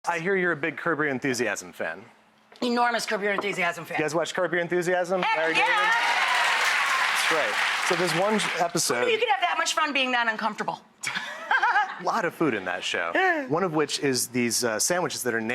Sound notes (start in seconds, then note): 5.3 applause; 11.3 laughs